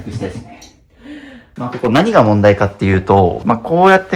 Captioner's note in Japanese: 息をのむ音